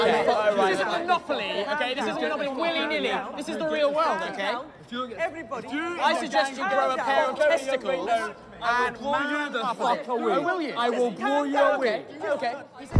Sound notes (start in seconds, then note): 8.0 group chattering